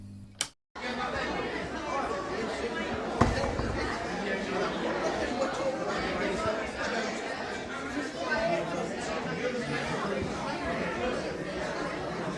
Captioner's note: neon light sounds; general chatter